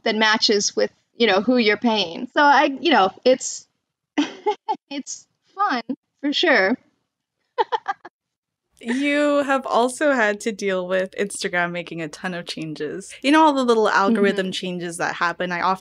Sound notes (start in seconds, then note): 3.9 laughs; 7.6 laughs